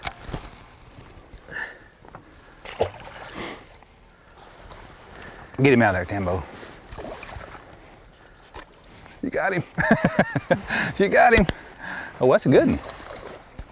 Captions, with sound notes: [Splash] get him out for there Tambo you got him [Laughter] She got him! oh that's a gooden